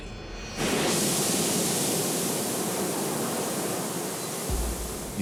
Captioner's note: thermic lance cutting